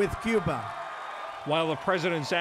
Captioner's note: cheering and applause